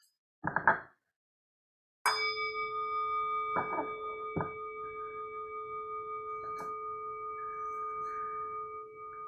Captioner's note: chime